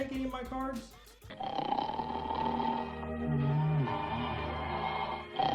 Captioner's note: cartoon snoring